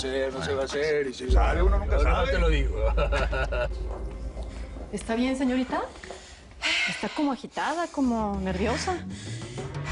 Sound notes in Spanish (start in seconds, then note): 2.7 Risas